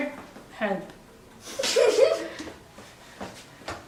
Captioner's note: laughs